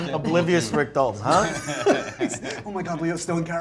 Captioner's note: laughs